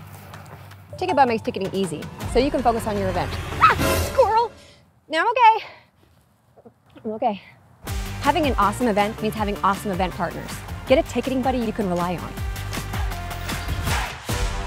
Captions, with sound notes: Ticketbud makes ticketing easy, so you can focus on your event. (scream) Ah Squirrel! No, I’m ok. I’m ok! Having an awesome event means having awesome event partners. Get a ticketing buddy you can rely on.